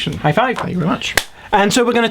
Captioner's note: hands clap